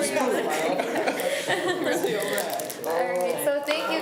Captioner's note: laughs